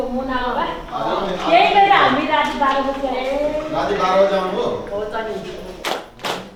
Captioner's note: indistinct conversation